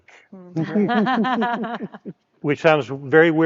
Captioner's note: speakers laughing